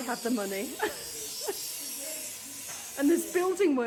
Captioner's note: loud buzz saw